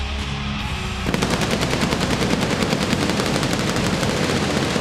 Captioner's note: fireworks exploding